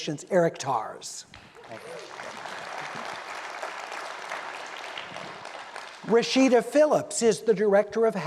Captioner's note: applause